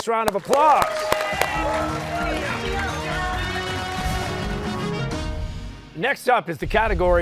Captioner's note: cheers and applause